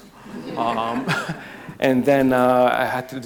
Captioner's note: crowd laughs